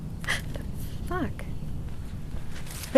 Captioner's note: gasps